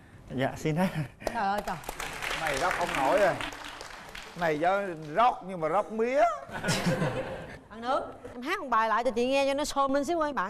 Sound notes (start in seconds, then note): 5.3 applaud